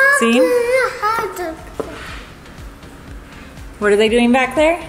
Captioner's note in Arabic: يتمتم